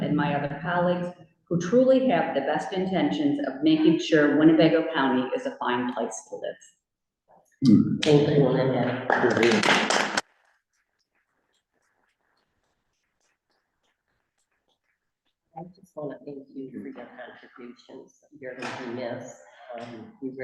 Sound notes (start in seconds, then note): 8.9 applause